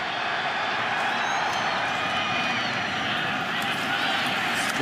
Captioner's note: cheering